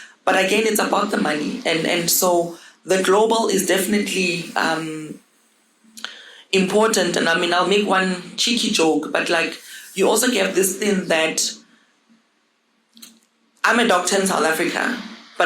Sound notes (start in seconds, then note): none